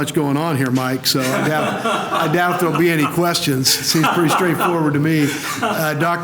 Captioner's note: laughter